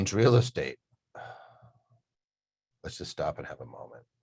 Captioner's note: sighs